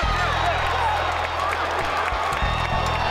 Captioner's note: light applause